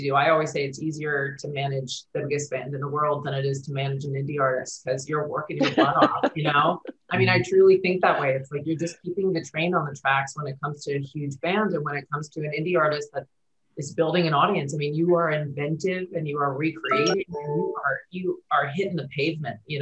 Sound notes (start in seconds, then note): 5.6 laughs